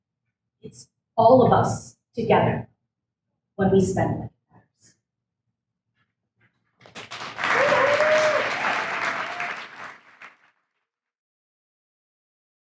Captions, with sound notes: It's all of us together when we spend together. (audience applauds) (audience cheers)